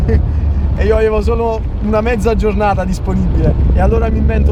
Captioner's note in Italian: risate